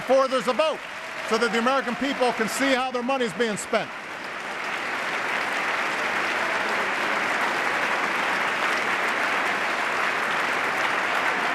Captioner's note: applause